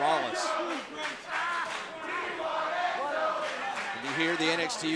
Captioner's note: fans chanting